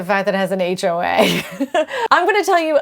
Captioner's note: laughs